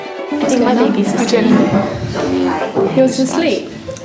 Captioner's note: trainees talking